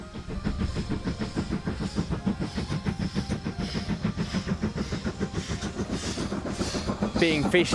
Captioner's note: train chuffing